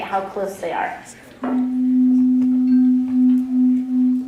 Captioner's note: tone